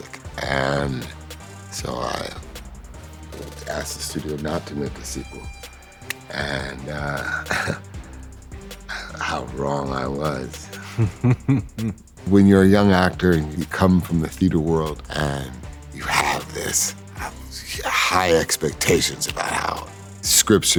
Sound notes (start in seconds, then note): 7.0 chuckles; 10.2 laughs